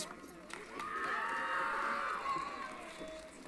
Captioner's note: applause & Cheering